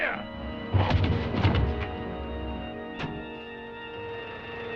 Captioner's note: chair breaks